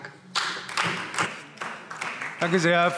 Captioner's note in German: Beifall Freie Demokraten